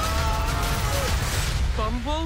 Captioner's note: dramatic foreboding music; laser zapping